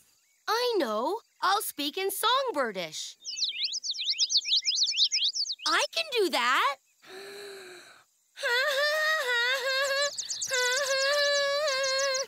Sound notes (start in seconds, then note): 2.3 birds chirp; 5.9 off-key humming; 7.0 inhale